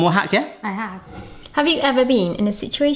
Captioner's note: screen fade whooshes